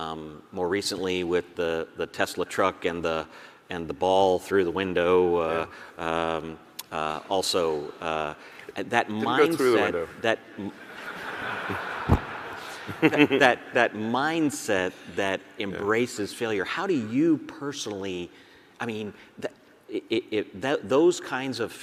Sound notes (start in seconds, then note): 10.6 audience laughs